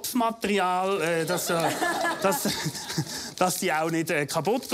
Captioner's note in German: lachen